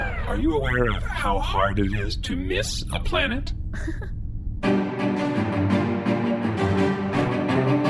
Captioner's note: laughs